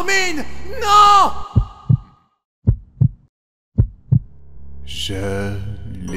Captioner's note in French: Battements de coeur; eren chant